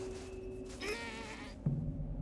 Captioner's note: grunting